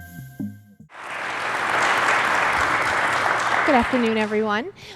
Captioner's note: clapping